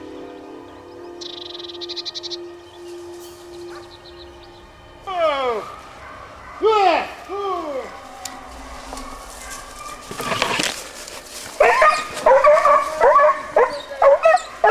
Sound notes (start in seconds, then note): 4.9 driver yelling; 10.2 dogs barking; 10.2 shuffling